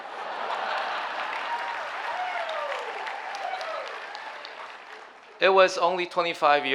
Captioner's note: audience laughing and cheering